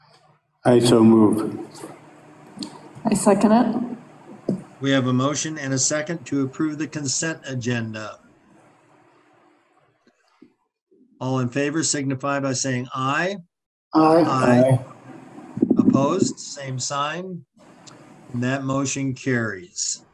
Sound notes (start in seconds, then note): 11.2 laughs